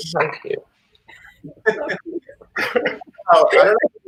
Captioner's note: laughing